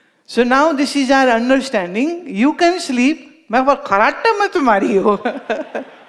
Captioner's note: laughs